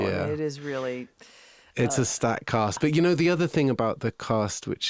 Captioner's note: none